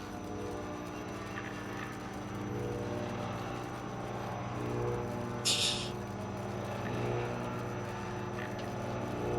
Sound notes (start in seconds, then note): 5.4 laughs softly